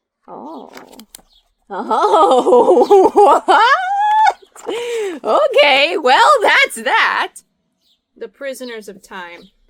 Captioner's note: laughs